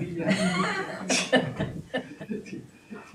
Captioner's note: laughing